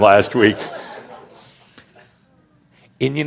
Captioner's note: laughter